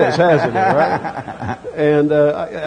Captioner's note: laughter